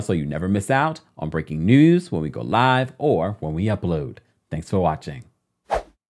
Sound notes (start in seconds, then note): 5.7 swooshing